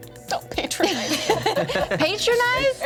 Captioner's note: everyone laughs